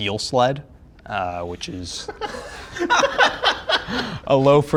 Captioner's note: group laughing